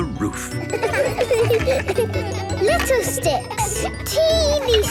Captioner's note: laughter